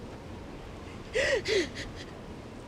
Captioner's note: sobbing